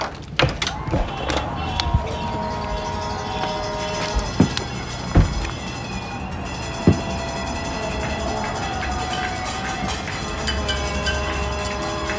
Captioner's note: sounds of cheering, car horns, applause, general clatter